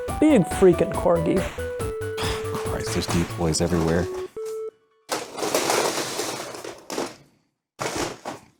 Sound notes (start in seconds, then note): 5.1 deploy rustling noises